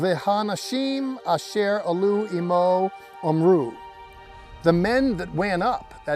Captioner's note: speaking Hebrew